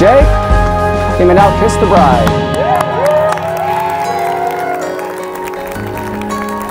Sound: cheering, clapping; acoustic guitar playing

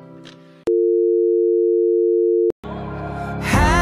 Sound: dial tone

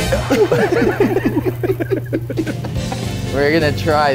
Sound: everyone laughs

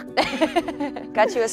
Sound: both laughing

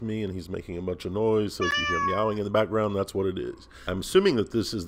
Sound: cat meow

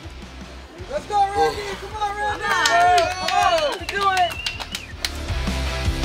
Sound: cheering & Clapping

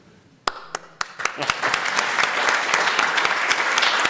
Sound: applause

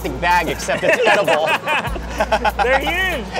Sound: laughing

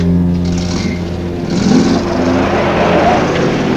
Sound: engine starts

